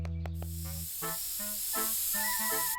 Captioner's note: spraying